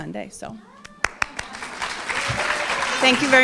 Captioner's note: cheering and applause